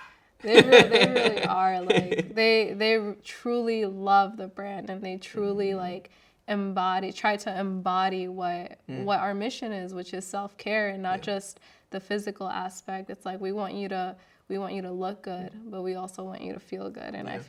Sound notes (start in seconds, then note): 0.4 laughing